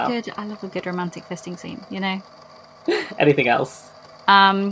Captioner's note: laughs